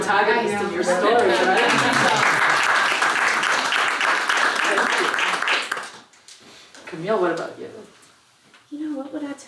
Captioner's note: applause